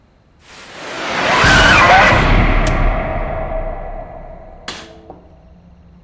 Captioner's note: roar